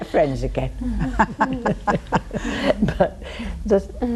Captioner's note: all laughing